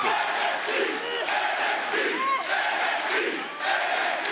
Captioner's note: crowd chanting "NXT"